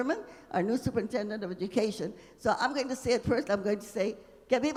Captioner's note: speaking Spanish; speaking Spanish